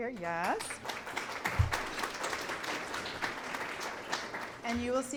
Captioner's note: clapping